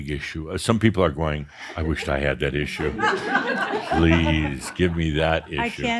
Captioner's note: laughter